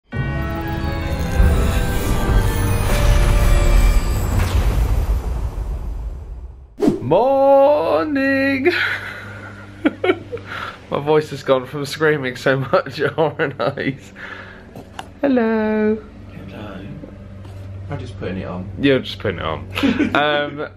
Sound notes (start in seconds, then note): 0.0 spooky organ music; 2.9 lightning cracks; 4.2 thunder rumbling; 8.7 laughs wearily; 19.7 chuckles